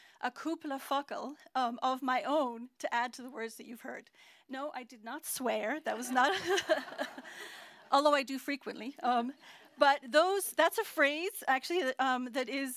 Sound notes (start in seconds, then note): 0.4 non-english; 6.0 laughter